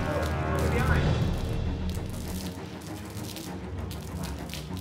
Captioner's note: blood splattering